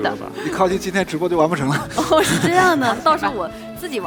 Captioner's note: laughs